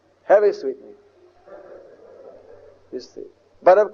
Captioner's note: devotees laugh